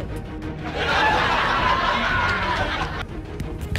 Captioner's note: laugh track